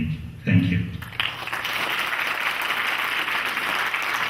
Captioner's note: clapping